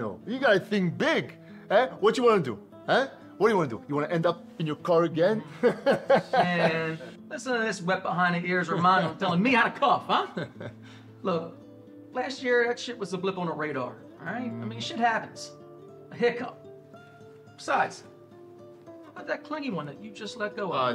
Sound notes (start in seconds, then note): 5.4 laughs